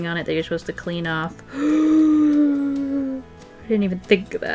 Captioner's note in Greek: Κοφτή ανάσα